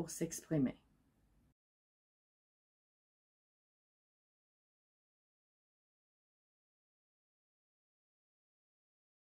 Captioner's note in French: silence